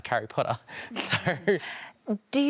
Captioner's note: laughs